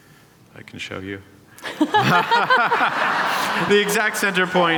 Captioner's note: laughter